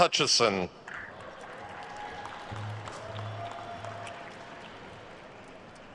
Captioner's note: attendees cheering and applauding